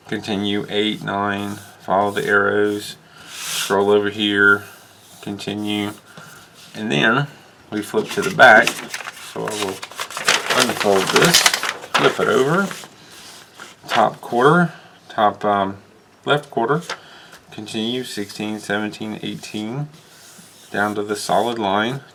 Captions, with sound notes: continue, 8, 9, follow the arrows. scroll over here, continue and then... we flip to the back.. [paper crinkles] So I will unfold this. Flip it over. Top quarter, top umm.. left quarter. Continue, 16, 17, 18... Down to the solid line.